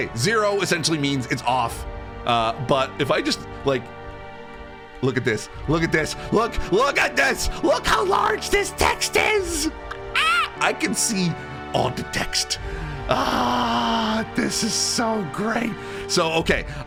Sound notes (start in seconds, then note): 9.7 squeals